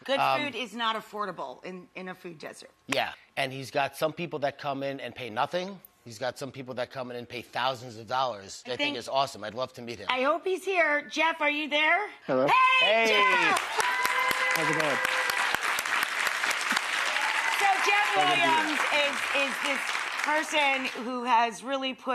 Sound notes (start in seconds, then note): 13.0 audience applauding